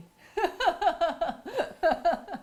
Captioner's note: laughs